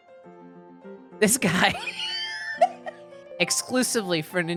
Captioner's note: laughing